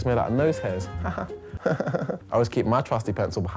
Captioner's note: chuckle